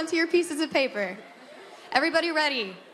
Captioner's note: laughter